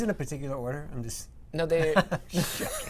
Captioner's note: laughter